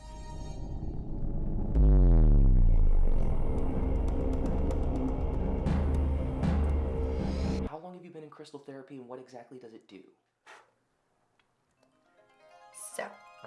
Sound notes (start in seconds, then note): 0.0 moves into ominous music; 6.7 whooshing; 10.1 deep exhale; 12.3 light magical music